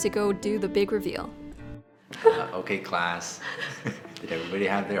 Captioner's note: both chuckle